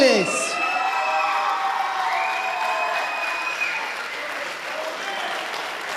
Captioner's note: audience applauding and cheering